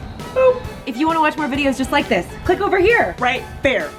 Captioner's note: whooshing